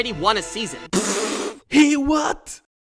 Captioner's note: spit take